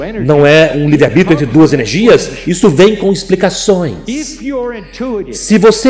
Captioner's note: laughs